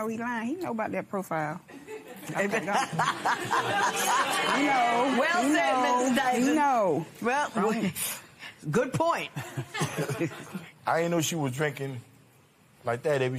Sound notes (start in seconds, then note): 2.6 laughs